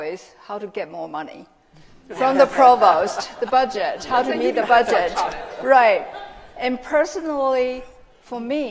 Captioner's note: laughter